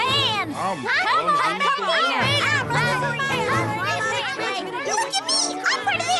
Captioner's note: shouting